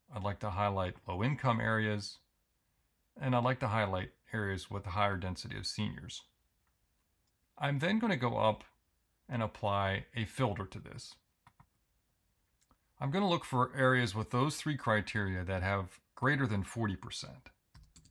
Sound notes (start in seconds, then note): 11.4 mouse clicks